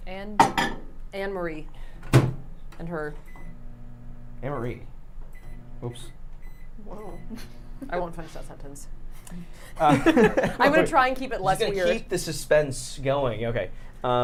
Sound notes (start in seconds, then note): 3.3 microwave beeping; 7.3 chuckles; 9.8 everyone laughs